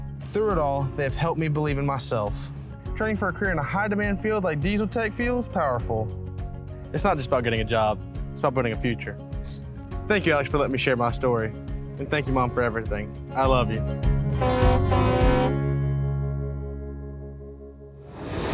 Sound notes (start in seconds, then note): 14.3 truck horn blowing; 15.4 light upbeat music